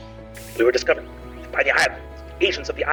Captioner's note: mimics distortion